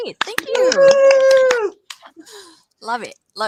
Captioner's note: applause